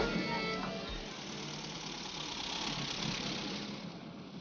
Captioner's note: car engine whirring